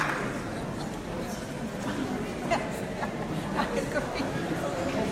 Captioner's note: audience conversing